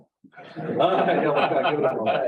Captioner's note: laughter